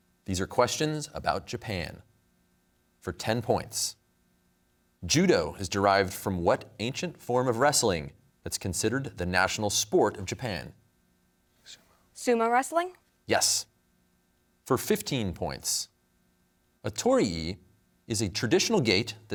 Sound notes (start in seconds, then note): 11.7 whispers